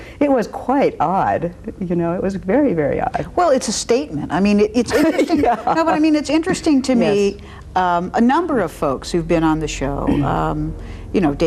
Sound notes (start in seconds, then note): 4.9 laughs